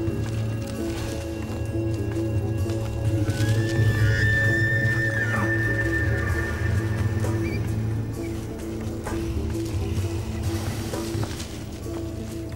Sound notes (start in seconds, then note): 0.1 tense tribal music; 3.1 shrieking